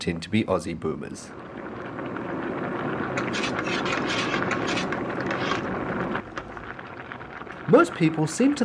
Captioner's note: sounds of water boiling